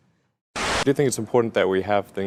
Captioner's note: static